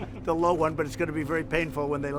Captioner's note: laughter